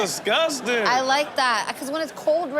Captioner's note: audience laughs